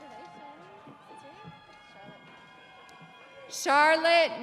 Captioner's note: audience cheering